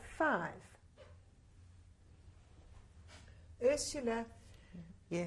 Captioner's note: pauses for 3 seconds